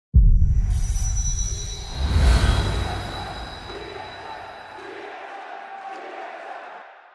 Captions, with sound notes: (air swooshes) - [Crowd] T-S-M, T-S-M, T-S-M, T-S-M.